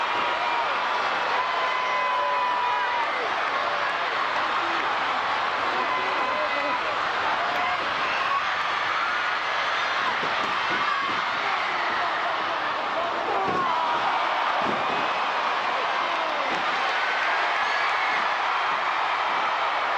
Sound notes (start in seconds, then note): 9.7 crowd chattering; 11.1 stage clattering